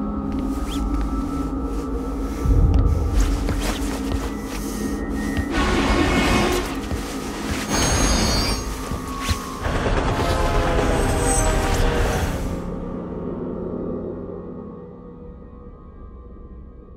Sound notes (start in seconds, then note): 0.3 loud fabric sounds; 5.4 subway horn blaring; 10.3 loud subway car rushing past